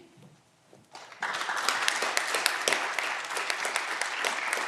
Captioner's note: audience clapping